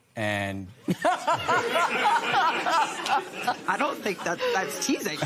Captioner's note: laughter